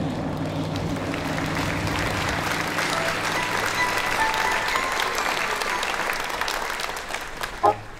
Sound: applause

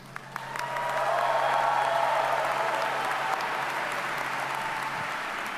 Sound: audience cheers and applauds

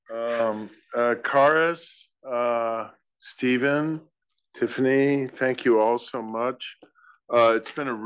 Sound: laugh

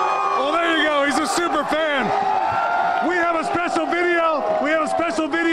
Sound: cheers and applause

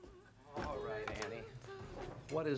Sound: Anne humming

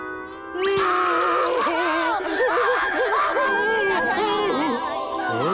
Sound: crying

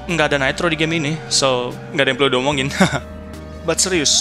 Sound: laugh

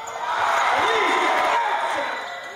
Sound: cheers

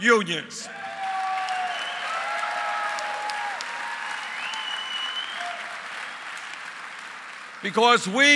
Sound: applause

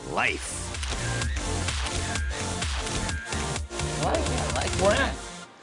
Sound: camera shutter clicking

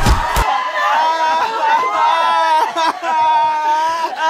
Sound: Jamantha sobbing

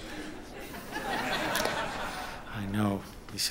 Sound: audience laughing

